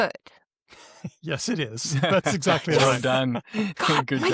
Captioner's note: laughs